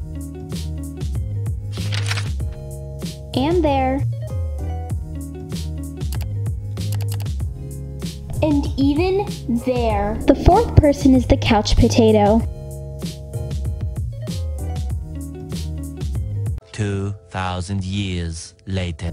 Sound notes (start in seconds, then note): 0.1 light music; 1.7 page turn; 2.4 light music; 6.8 mouse clicking; 7.6 light music; 12.5 light music